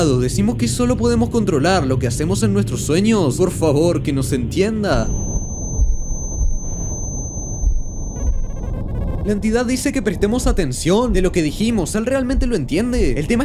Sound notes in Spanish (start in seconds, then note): 7.1 Sonido migraña